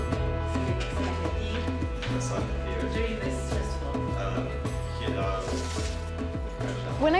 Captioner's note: speaking Arabic